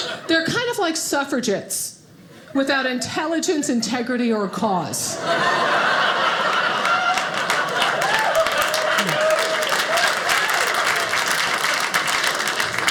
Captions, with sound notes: They're kind of like suffragettes, without intelligence, integrity, or cause. (audience laughing) (audience applauding)